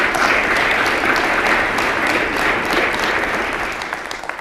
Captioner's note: applause